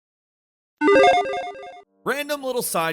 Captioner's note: logo beeps